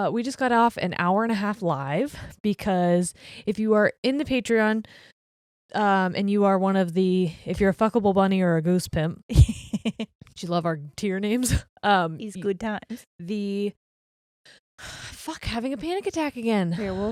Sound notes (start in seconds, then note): 9.4 giggling quickly